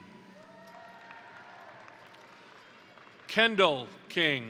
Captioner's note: crowd cheering; crowd applauding